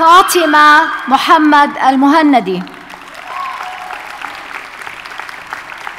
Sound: audience cheers and applauds

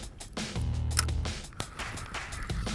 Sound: reel clicking; reel spinning

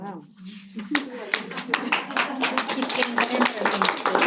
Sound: applause

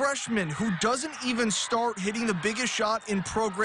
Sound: cheering

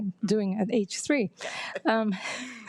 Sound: laughs

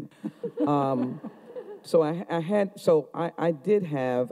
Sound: audience chuckling

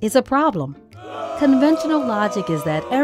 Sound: booing

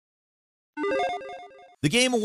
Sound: beeping computer game sound

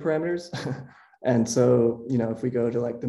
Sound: laughs

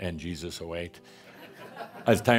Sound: laughter

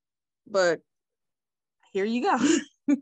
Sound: laughs

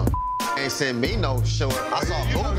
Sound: beep

